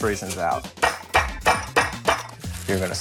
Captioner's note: rolling pin banging